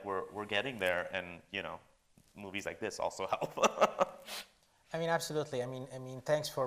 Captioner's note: laughs